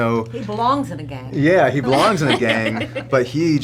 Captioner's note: laughing